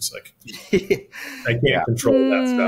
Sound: chuckling

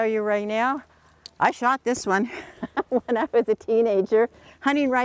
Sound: laughing

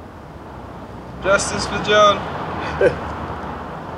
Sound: laughs

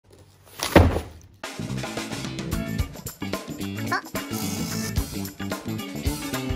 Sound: box landing; upbeat music

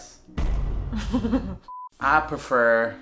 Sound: laughing

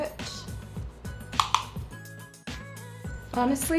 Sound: plastic tapping

